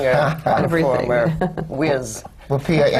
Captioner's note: laughs